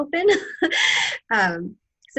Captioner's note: laughter